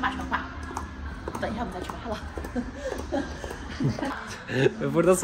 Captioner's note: laughter